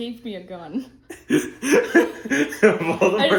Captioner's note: laughter